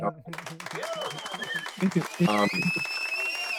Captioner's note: applause